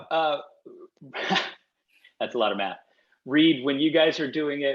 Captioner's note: laughs